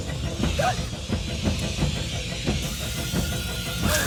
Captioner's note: tense music; yelping